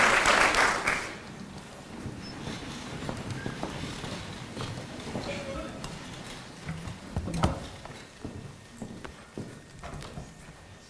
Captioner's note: applause